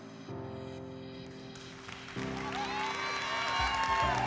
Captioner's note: applause and cheering